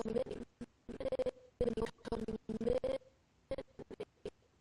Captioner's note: audio skipping